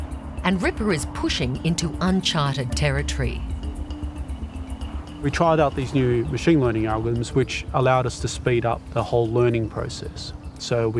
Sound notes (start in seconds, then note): none